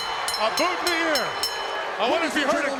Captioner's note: bell ringing; crowd cheering